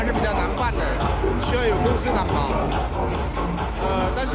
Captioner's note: Vietnamese